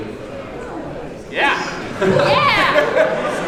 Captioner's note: laughs